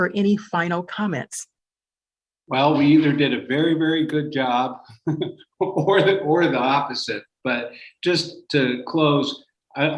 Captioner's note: laughter